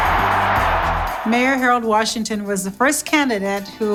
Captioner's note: crowd cheering